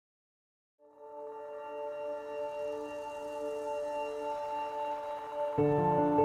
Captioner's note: high-pitched ringing